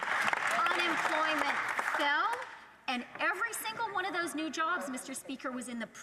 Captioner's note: some Applause